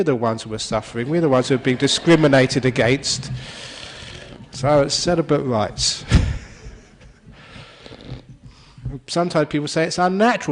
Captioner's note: laughter